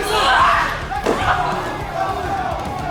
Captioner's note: A loud slam as Mariposa hits the mat